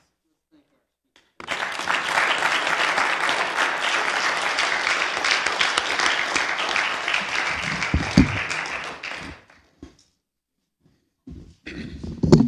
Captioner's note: applause